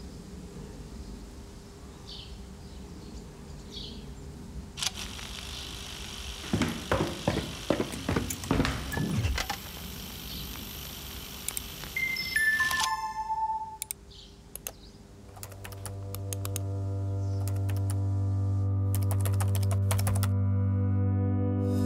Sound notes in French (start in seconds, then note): 1.5 chants d'oiseaux au loin; 4.8 bruits de rebobinage de pellicule et de pas; 12.0 petite sonnerie